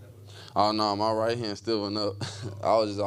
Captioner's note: chuckles